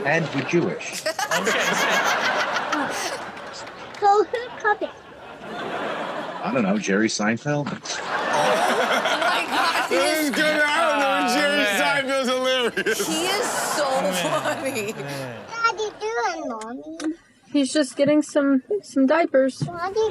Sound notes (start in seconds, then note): 0.0 audience laughs